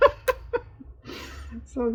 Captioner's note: laughs